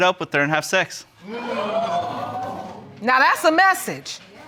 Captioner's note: audience gasps